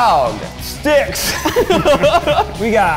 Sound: laughing

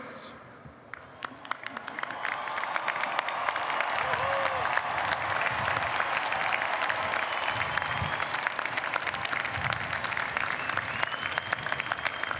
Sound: applause

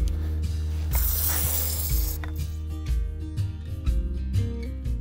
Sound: soft instrumental music; device spraying

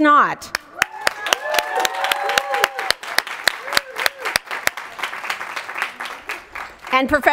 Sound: applause

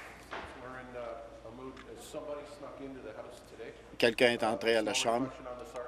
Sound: applause

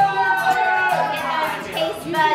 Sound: children cheer

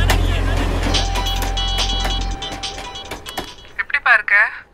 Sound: phone ringing

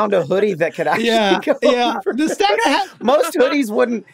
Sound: laughs

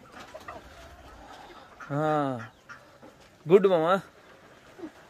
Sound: none

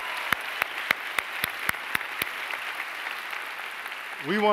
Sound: applause

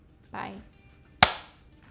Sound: clap

